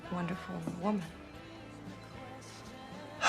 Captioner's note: sighs